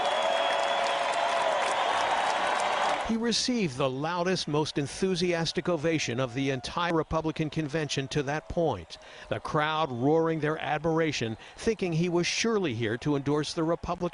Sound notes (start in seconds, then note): 7.8 cheers; 9.2 applause; 9.6 cheers; 10.0 applause